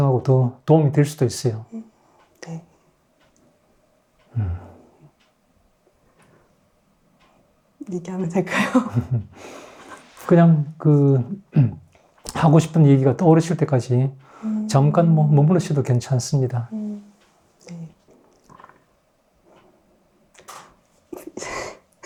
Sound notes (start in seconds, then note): 8.5 laughs